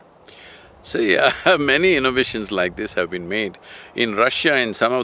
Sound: laughs

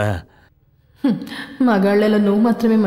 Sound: scoffs

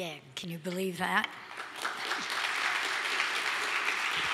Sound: applause

